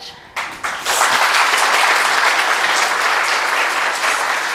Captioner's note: students applaud